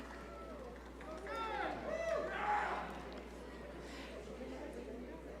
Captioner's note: audience cheering